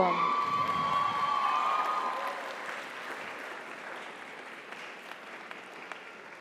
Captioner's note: audience cheers; audience applauds